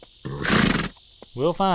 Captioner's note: horse snorting